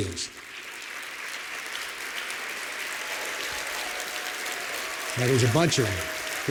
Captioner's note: applause